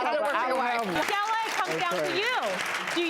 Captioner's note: audience applause